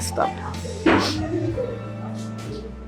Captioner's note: sad sniff